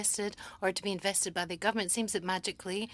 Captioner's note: speaking French